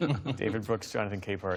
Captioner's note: laughter